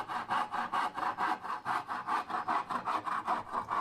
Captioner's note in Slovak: dychčanie